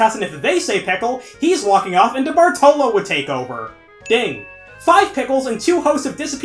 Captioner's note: ding